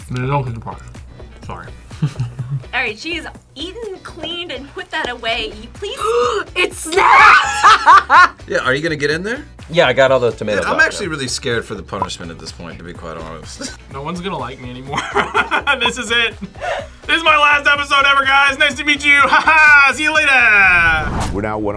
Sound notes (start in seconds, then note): 2.0 laughs; 5.9 gasps; 6.9 both laugh; 14.9 laughs